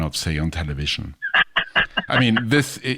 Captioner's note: laughs